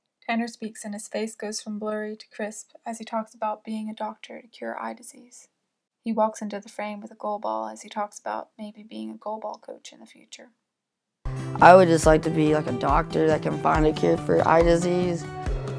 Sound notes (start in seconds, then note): none